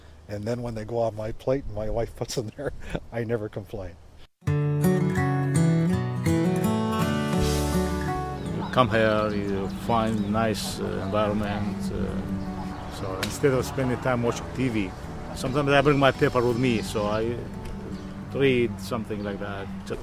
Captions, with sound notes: And then when they go off my plate, my wife put them there, I never complain [guitar music starts] [music stops, man speaks, birds chirping] Come here, you find nice environment. So, instead of spending time watching TV, sometimes I bring my people with me, so I, ah, to eat something like that.